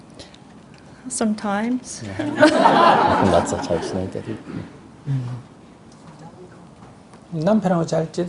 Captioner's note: audience Laughter